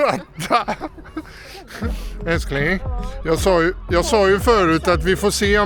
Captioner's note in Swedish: skratt